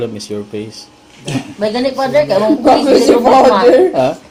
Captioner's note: laughs